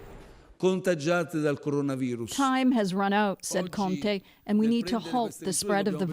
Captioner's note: speaking italian